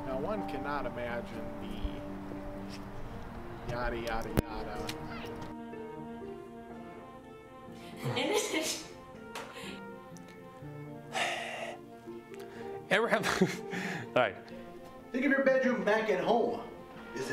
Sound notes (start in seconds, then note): 7.8 laughing; 13.1 laughs